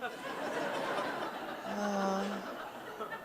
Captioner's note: audience laughs